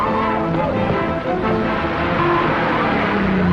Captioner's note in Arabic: بوق السيارة; تشغيل موسيقى درامية